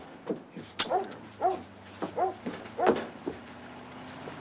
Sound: Striker continues barking

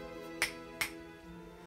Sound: snap

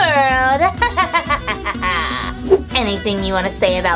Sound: evil laughing

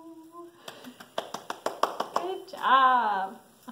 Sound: clapping

